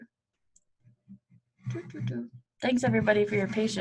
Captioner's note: humming